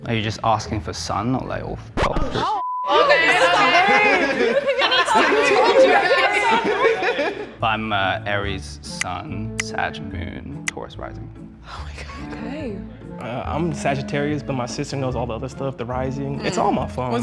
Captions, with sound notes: - Are you just asking for sun or like all three? (all chattering) - I told you guys. (men laugh) - I'm Aries - sun, Sag - moon, Taurus - rising. - Oh my God. - Okay. - I'm Sagittarius, but my sister knows all the other stuff. The rising, it's all in my phone.